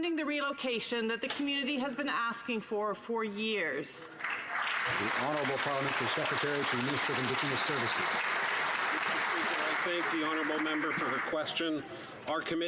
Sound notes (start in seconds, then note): 6.8 some Applause